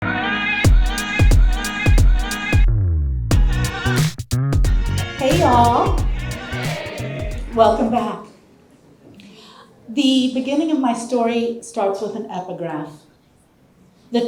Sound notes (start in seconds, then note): 0.7 upbeat music; 5.2 audience greeting